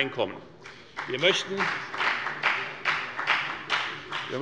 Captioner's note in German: Beifall bei der FDP